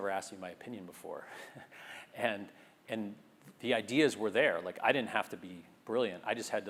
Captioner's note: laugh